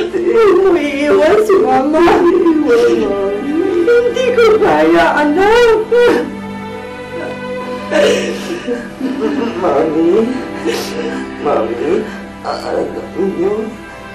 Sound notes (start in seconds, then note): 5.4 cries